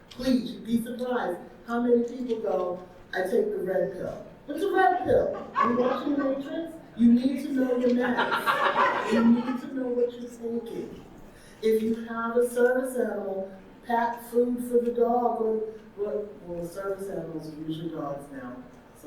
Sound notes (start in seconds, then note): 5.4 audience member laughs; 7.6 audience laughing